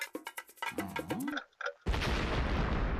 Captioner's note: clinking; clock ticking